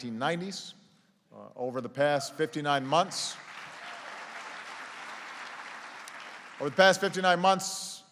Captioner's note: applause